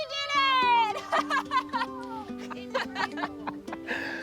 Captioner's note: all laughing